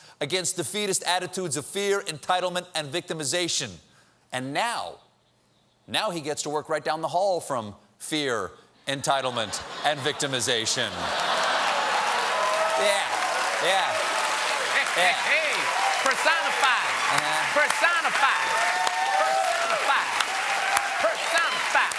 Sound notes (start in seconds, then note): 12.8 cheers and applause; 12.8 laughter